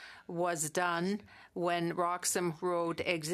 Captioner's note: speaking French